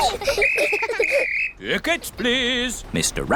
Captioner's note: blows whistle